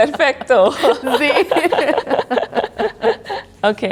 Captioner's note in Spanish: riendo